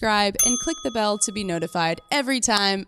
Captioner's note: bell dings